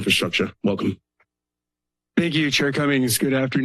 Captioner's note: silence